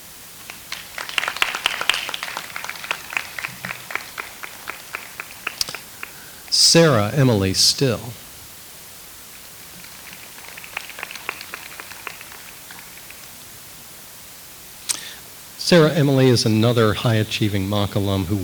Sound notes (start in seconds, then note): 0.2 audience applauds